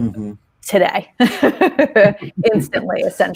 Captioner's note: laughing